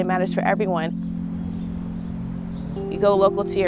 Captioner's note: store doorbell rings